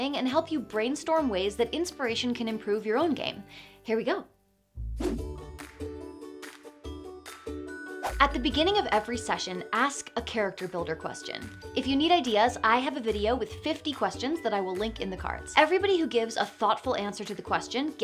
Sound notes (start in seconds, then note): 4.8 transition whooshes; 4.9 bright music